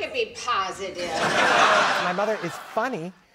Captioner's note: laughter